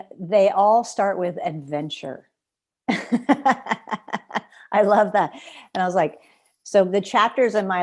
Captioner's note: laughter